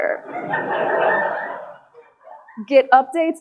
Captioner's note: audience laughing